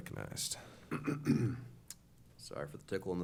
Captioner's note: clearing throat